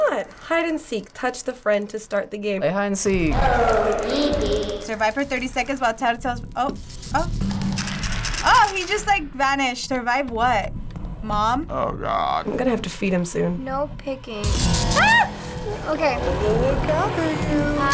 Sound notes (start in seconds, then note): 7.4 flashlight rattles; 14.8 loud, unsettling warble; 16.3 creepy singsong